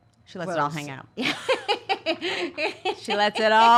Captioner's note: laughs